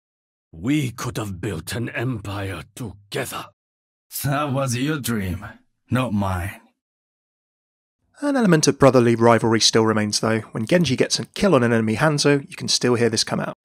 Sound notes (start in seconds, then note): 8.0 voiceover